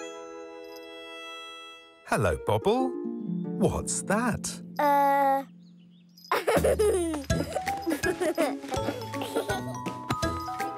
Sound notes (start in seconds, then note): 6.3 laughing; 6.9 playful cheery music